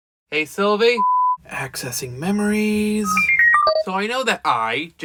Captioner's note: memory hacking sound effects